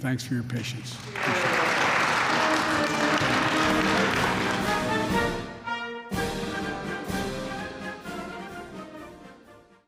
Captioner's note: applause